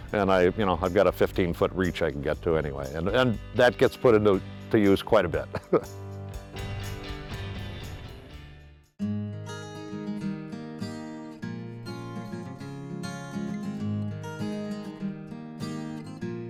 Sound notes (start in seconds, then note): 5.4 chuckling; 6.2 upbeat guitar music; 9.3 light guitar music